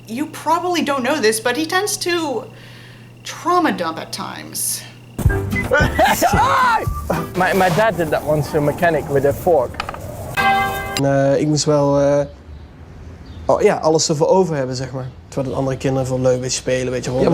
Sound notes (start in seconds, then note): 5.6 laughing